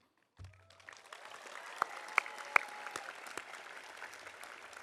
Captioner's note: audience applauding